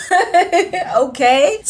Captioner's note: laughs